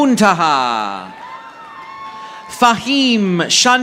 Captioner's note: audience applauding